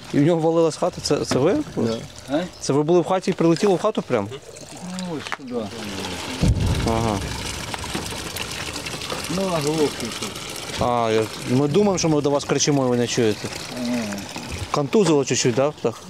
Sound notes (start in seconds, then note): 6.4 powerful explosion in the background